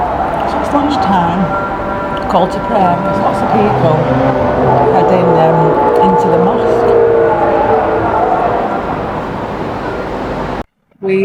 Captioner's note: wailing Noises